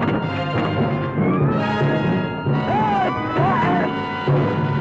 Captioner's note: men screaming